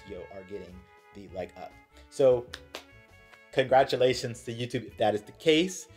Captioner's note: clap clap